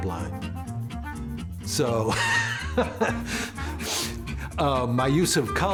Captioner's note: laughs softly